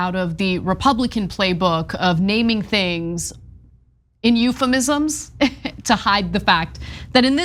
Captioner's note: laugh